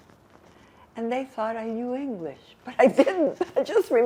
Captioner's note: laughing